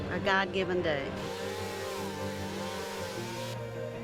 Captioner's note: chainsaw revving